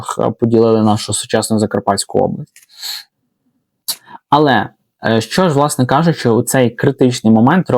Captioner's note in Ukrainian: сопіння